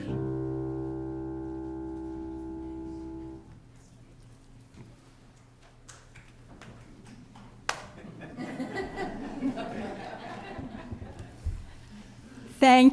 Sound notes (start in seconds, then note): 1.5 applause